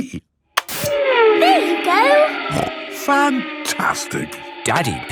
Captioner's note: snorting